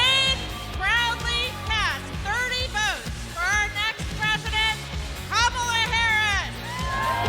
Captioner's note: cheers and applause